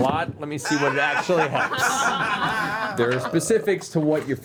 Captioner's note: laughter